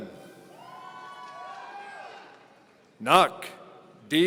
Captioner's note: audience cheering